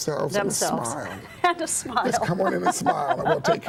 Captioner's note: laughing